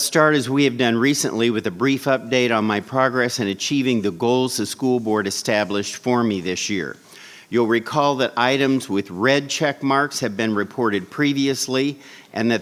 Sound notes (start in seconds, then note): none